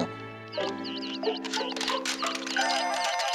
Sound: peeping; cracking

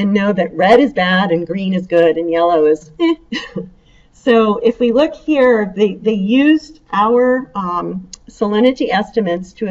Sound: chuckle

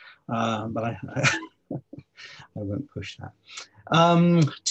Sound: laughs

